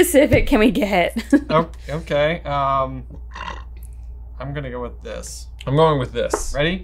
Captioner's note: chuckles